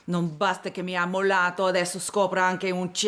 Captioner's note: speaking italian